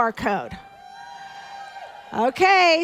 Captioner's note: audience applauding